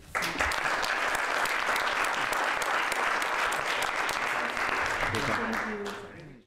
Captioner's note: applause